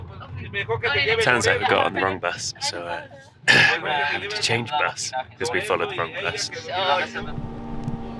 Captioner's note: cough